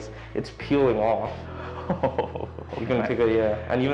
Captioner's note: chuckles